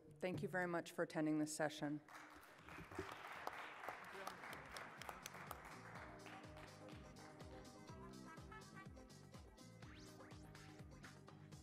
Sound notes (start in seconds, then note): 2.1 audience applauds